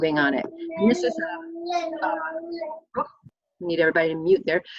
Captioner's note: baby mumbles